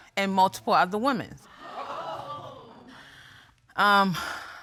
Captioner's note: audience gasps